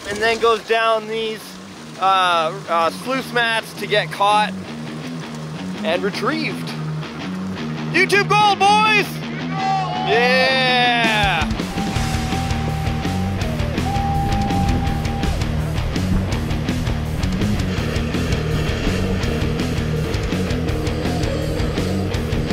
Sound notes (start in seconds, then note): 8.7 shouts; 11.5 fast-paced rock music; 12.8 machinery whirring; 14.7 fast-paced rock music; 17.5 machinery whirring